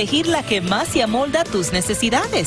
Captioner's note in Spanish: audio en ingés